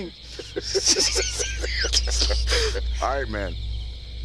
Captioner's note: both Laughing